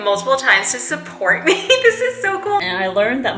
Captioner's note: chuckles